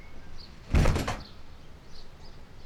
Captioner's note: door slams